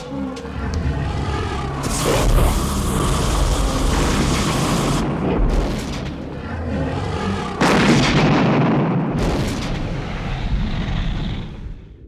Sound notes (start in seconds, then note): 5.0 dragon growls; 5.0 fire blazes; 8.6 dragon growls